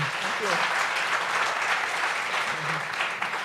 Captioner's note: applause